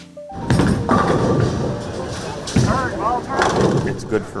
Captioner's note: bowling pins clanging